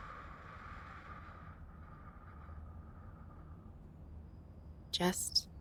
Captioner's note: slow exhale